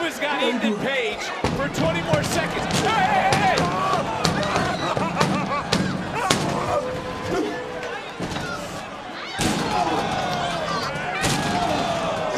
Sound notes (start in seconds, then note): 4.2 box clatters; 4.2 shrieks; 9.4 box clatters; 12.1 crowd roars